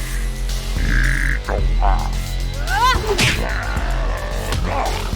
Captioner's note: non-english speech; grunting